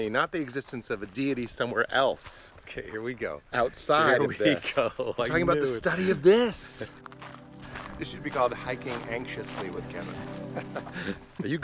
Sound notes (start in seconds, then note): 5.1 laughs; 10.0 laughs